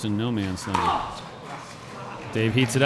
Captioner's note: grunting